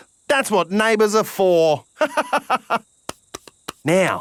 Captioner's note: laughs